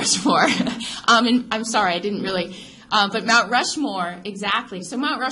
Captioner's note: laughs